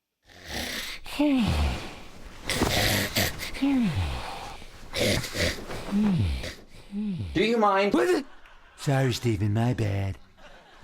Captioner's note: snoring